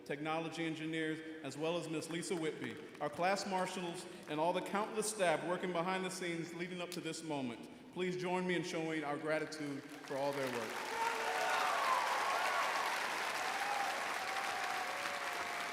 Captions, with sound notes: technology engineers, as well as Ms. Lisa Whitby, our class marshals, and all the countless staff working behind the scenes leading up to this moment. Please join me in showing our gratitude for all their work. (audience applauding)